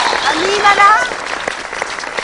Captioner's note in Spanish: aplausos